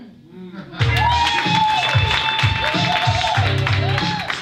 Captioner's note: loud applause